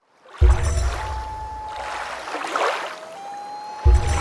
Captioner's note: water rushing, loon calling